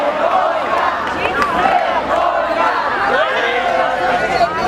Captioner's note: loud chanting